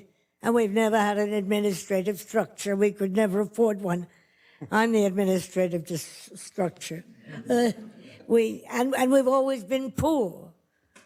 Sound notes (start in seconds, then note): 7.3 light laughter